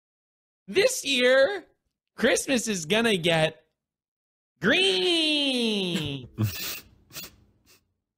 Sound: voice echoes

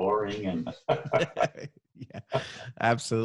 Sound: both laughing

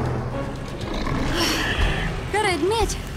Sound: low growling

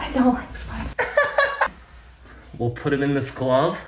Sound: laughs

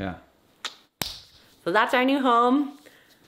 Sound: hands smacking

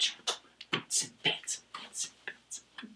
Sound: smacking a kiss; beatboxing

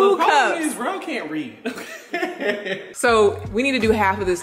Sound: laughing

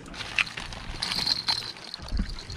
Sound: rustling; clattering

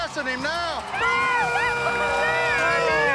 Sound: all shouting

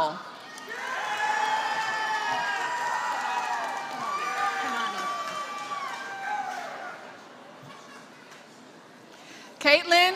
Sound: applause

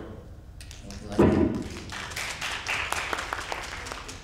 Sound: applause

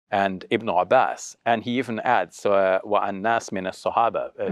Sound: speaks foreign language

